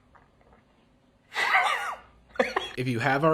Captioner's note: laughs